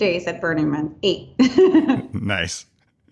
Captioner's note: laughing